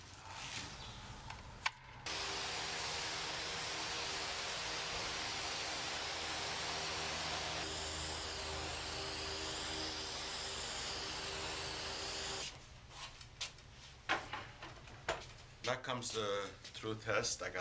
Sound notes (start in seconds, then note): 1.7 fan whirring; 1.7 spray can spraying; 12.9 footsteps pattering